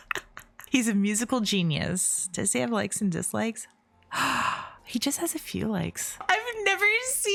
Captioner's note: gasp